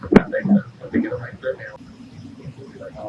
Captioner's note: radio